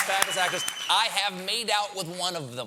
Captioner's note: cheers and applause